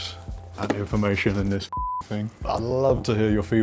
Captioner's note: beep